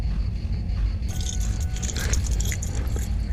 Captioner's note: car dings. Keys jingle